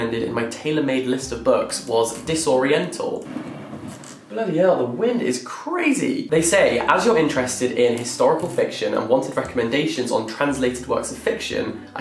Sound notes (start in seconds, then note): 3.6 wind rushing